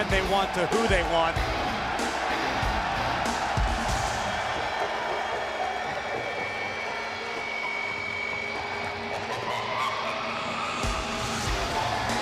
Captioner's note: crowd cheering